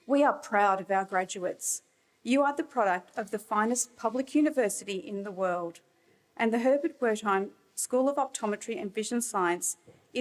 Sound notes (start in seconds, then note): none